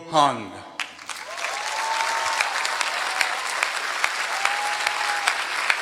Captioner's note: applause